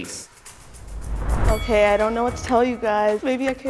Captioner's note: boxing bell ringing